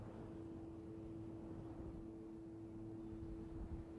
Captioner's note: wind blowing